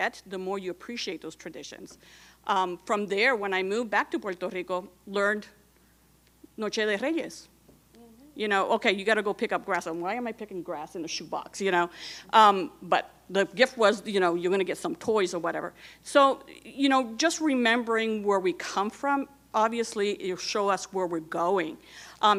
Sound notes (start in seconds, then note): 5.2 speaking in Spanish